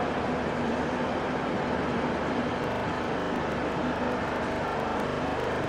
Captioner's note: train leaves station